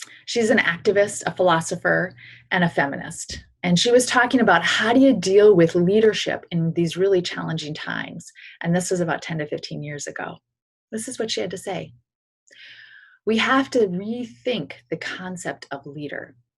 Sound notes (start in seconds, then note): none